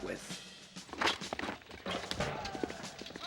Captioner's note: horse gallops